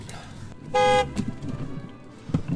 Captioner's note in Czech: auto zatroubí